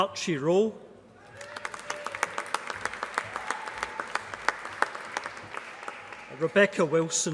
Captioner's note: applause